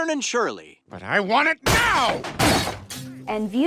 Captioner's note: glass breaking